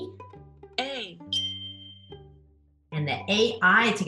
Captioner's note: bell chimes